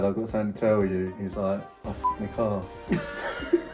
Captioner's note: beep; both laughing